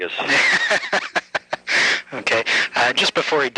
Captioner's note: interviewer laughs